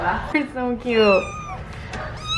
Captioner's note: mews